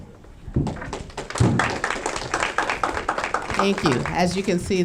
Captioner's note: audience clapping